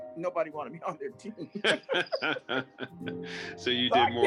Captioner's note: both laughing